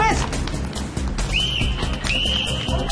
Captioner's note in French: whistle